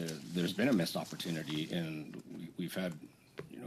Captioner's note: speaking French